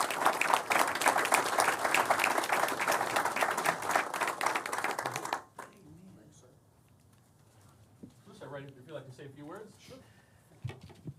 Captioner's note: applause